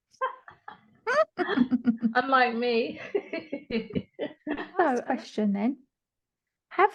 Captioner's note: more laughter